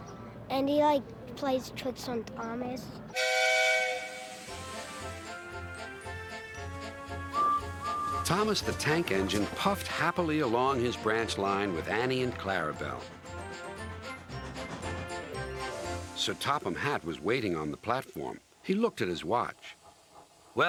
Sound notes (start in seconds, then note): 3.1 engine whistles; 5.0 theme music playing; 5.0 toots